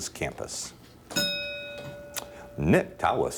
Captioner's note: bell dinging